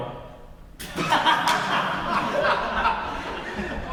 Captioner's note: laugh boisterously